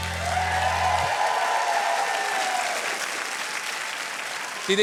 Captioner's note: cheering and applause